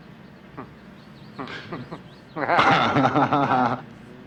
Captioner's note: both laugh